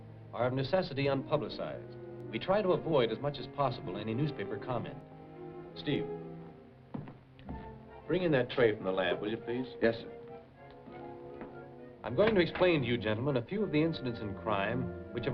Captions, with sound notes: are, of necessity, unpublicized. We try to avoid, as much as possible, any newspaper comment. Steve? [FOOTSTEPS] Bring in that tray from the lab, will you, please? Yes, sir. I'm going to explain to you gentlemen a few of the incidents in crime which have